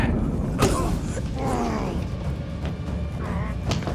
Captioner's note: groans